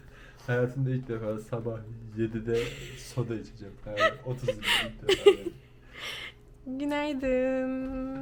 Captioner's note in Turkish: kahkaha